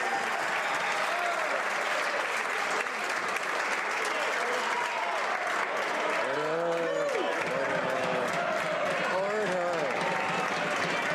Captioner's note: some Applause